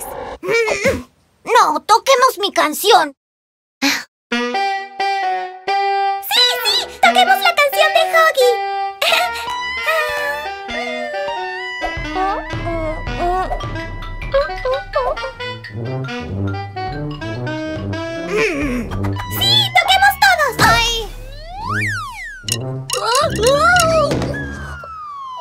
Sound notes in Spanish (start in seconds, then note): 8.8 Risas; 13.5 Sonido de instrumentos